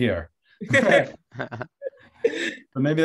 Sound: laughter

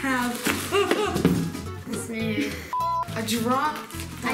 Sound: gasping

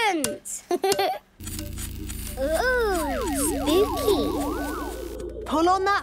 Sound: pulsing

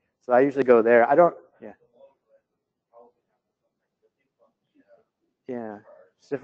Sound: pause

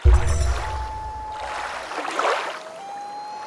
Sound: water rushing, loon calling

